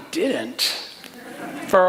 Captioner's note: laughter